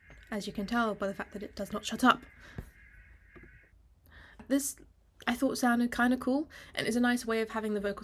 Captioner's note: echo stops